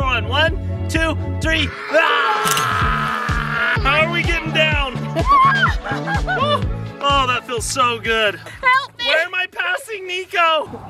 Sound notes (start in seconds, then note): 5.1 laughing